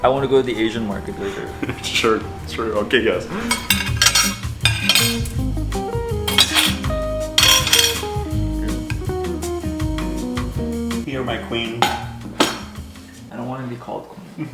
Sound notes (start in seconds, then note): 1.4 chuckles; 3.5 utensils clanking; 5.9 upbeat music